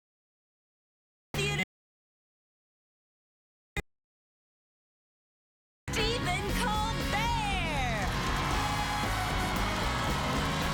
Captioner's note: cheers and applause